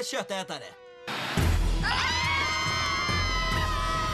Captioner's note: screaming